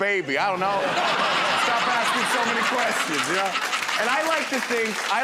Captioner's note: laughter